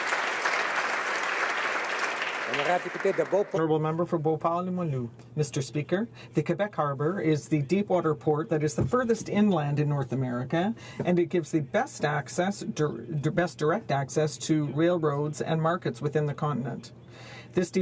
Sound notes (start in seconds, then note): 2.2 applause